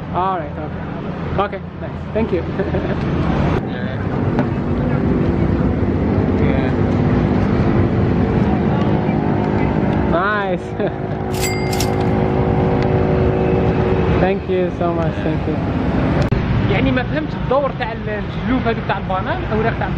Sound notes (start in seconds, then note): 3.2 giggles; 4.0 engine sound